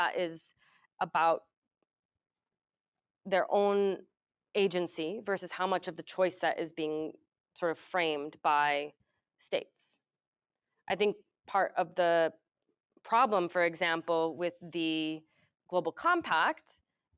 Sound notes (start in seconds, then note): none